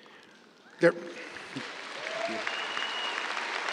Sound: cheers, applause

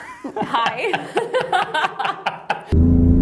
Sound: laughter; engine roar

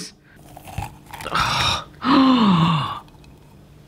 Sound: gasping

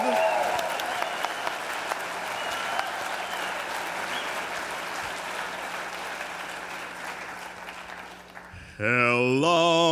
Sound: cheers and applause

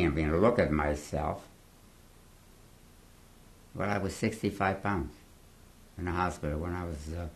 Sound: pauses for 3 seconds

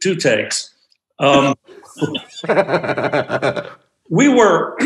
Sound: group laughs

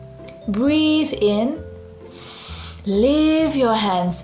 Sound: breathes in deeply

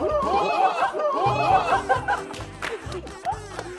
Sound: kekekekekekeke

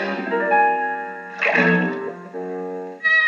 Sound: splash; plop; buzzing

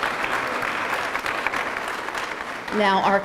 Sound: applause

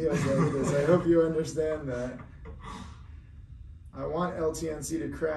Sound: laughs

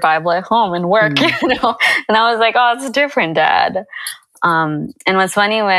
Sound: chuckle

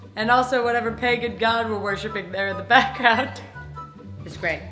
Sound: laughs

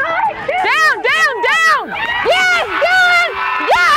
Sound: yelling

